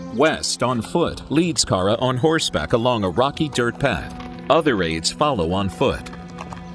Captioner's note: hooves clopping